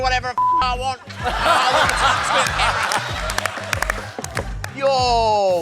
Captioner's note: laughter